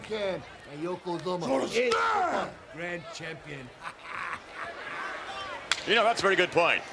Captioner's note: laughs